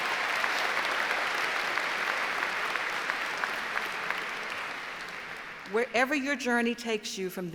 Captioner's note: applause